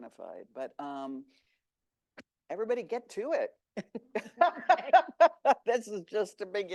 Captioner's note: laughs